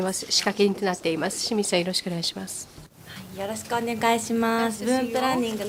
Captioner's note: speaking japanese